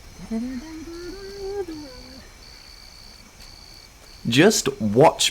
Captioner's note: humming